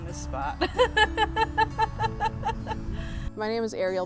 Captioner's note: laughs